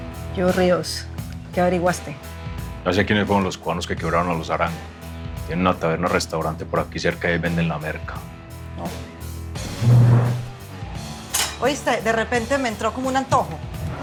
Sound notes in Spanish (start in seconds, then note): none